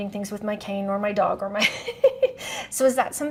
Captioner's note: laughs